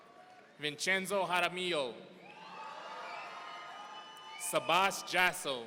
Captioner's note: audience cheering